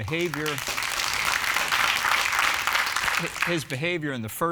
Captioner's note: audience applauding